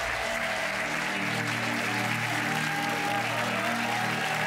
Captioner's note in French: applaudissements